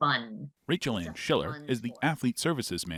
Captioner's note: speaking faintly